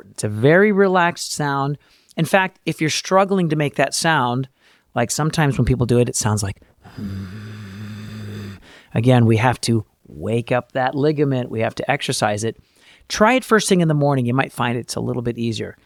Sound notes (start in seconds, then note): 7.3 uncompressed vocal fry sound